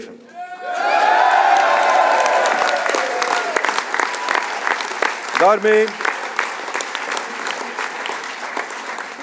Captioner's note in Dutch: applaus